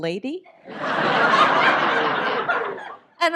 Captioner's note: audience laughs